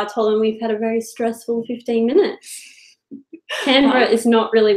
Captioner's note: laughing